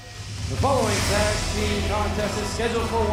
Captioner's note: bell ringing